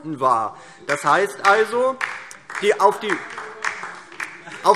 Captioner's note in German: Heiterkeit und Beifall DIE LINKE